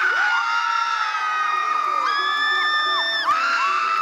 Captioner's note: cheering